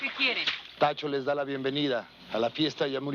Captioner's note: speaking in foreign language